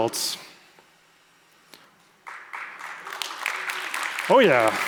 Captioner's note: applause